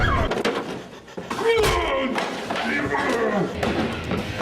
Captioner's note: Hulk noises